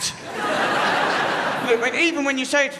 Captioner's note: crowd laughs